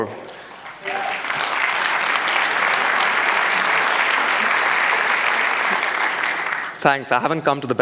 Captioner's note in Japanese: 拍手